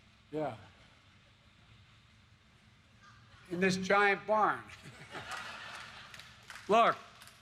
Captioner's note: laughter